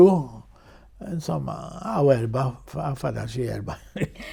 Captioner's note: laughs